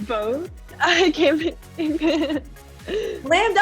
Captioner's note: laughing